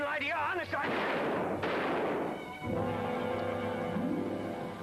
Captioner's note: gunshots bang